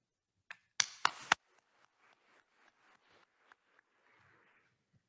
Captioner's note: attendees applauding